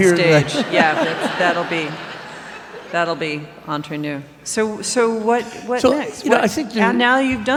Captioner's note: laughter